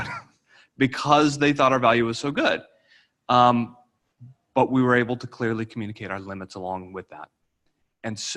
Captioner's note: laughter